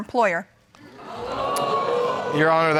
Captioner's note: crowd